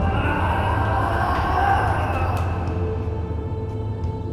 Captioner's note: Theseus shouting